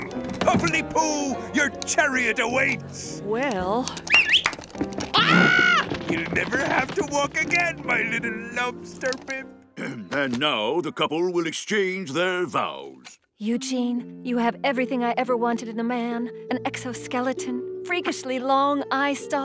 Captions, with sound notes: Pufflily-poo, your chariot awaits! - Well... - [whistles] [screaming] You'll never have to walk again, my little lobster bib. And now, the couple will exchange their vows. Eugene, you have everything I've ever wanted with a man: An exoskeleton, freakishly long eyestalks,